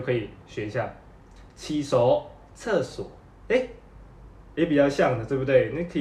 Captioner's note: Cantonese